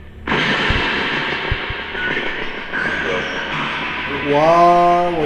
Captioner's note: clattering noises